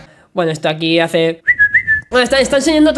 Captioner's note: whistle